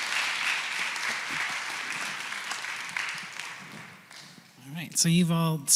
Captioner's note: applause